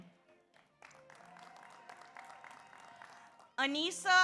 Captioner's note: audience applauds; audience cheers